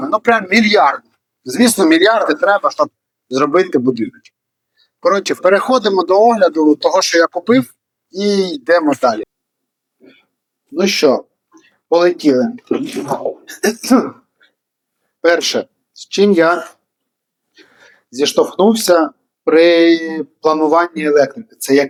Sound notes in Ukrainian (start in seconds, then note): 12.6 сміх